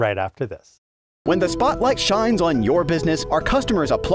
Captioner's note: voice-over